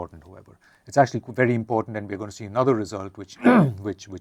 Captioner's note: cough